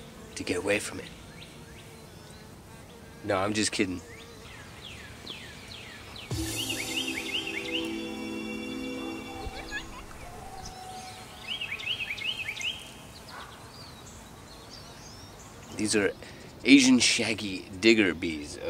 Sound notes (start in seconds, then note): 1.4 bee buzzing; 4.9 cardinal singing; 6.3 theme music; 8.9 bees buzzing; 11.2 wren singing; 13.1 bees buzzing